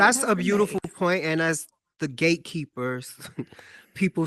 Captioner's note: chuckles